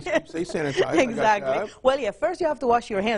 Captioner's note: laughs